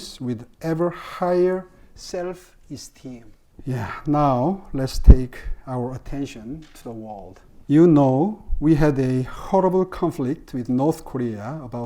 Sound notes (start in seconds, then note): none